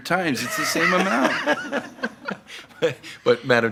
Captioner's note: laughter